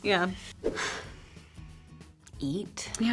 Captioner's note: graphics swoosh